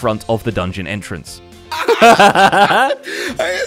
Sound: laughs

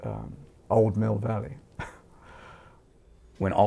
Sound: chuckles softly

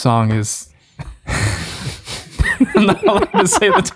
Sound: group chuckles

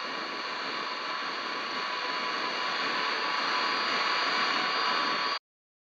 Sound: radio static

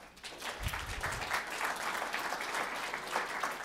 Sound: applause

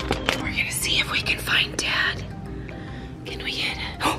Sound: gasps

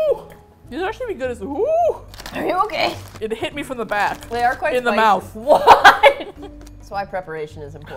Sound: laughs; laughing

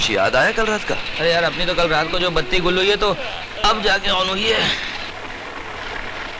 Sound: yawns

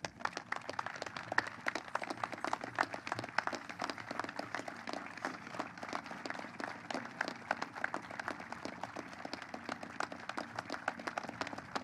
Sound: applause

